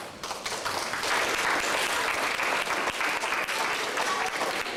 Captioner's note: audience applauding